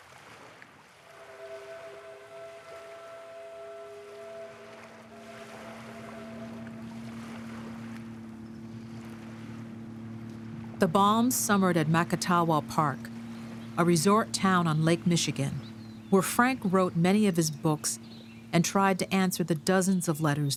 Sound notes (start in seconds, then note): 0.2 distant boat horn blares; 6.5 boat engine hums